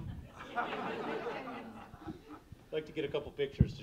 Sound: audience laughing

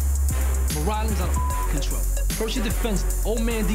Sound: beep

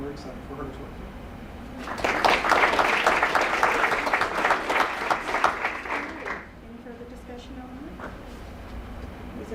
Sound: applause

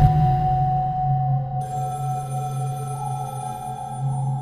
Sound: phone ringing

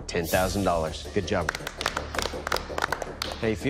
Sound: applause

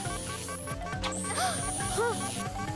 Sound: frantic beeping; gasping

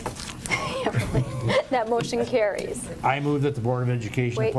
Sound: chuckles

